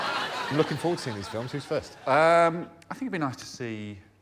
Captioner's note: laughter